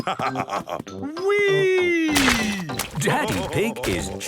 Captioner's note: splashes